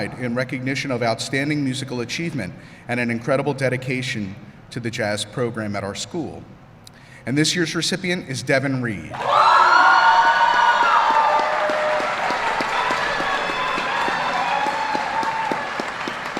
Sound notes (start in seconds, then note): 10.2 applause